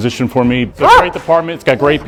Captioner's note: dog barks